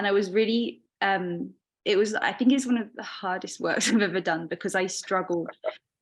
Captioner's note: chuckling